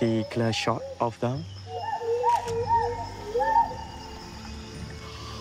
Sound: gibbons call

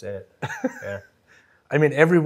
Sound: chuckles

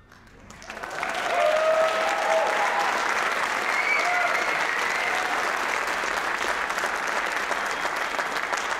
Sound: applause, cheering; applause

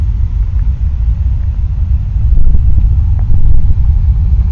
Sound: constant and echo-y rumbling with an intermittent whooshing sound

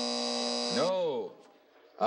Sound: buzzing

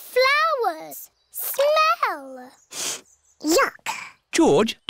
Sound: sniffs

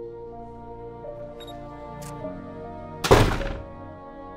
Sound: camera beeps, clicks

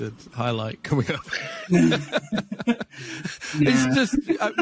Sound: laughing

